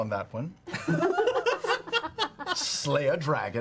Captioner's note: all laugh